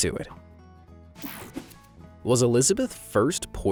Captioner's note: image whooshing